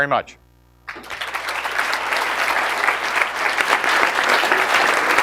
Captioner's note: audience clapping